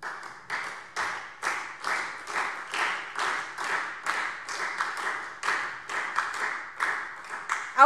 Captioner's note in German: Beifall SPD